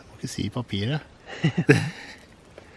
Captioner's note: laughs